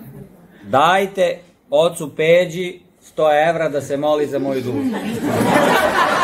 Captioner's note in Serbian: смех